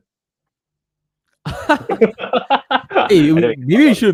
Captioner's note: laughter